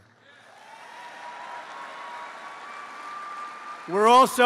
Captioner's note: applause